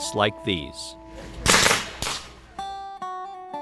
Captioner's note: gunshots